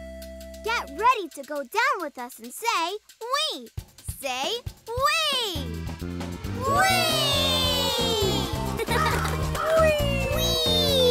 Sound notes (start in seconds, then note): 8.0 laughing